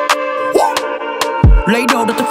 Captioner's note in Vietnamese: whoo